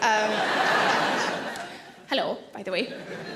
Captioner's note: audience laughing